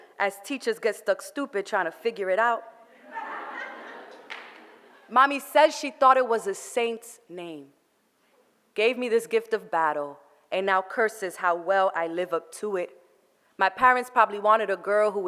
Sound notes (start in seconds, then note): 3.0 audience laughter